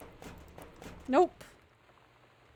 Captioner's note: lock Rattles